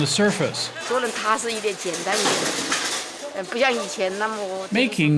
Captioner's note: speaking Mandarin